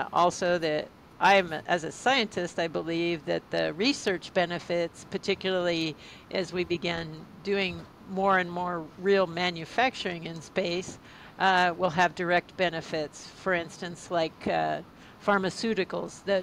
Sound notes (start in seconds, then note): none